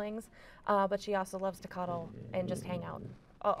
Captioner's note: Rose growls